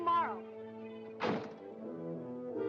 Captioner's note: car door shuts; whimsical music